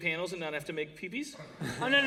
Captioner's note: laughter